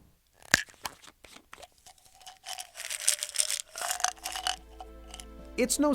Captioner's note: sound of pill bottle opening and pills spilling out